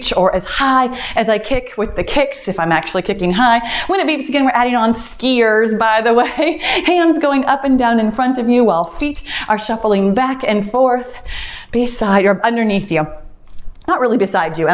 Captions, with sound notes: or as high as I kick with the kicks if I'm actually kicking high. When it beeps again, we're adding on skiers by the way. Hands going up and down (timer beeps) in front of you while feet are shuffling back and forth, beside, or underneath you, not really beside you,